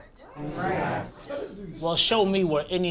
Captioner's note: crowd gasps